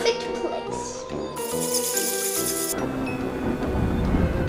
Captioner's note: bats flying